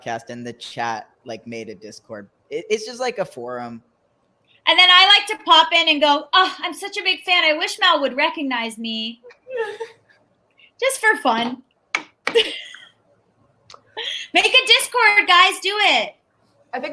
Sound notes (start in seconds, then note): 12.4 laughs